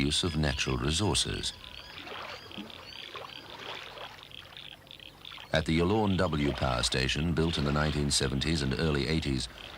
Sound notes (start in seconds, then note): 2.1 water splashing